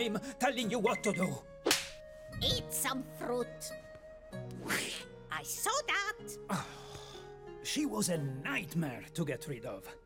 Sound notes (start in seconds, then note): 6.5 sighs